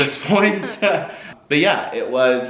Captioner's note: laughs